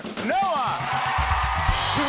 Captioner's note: cheers and applause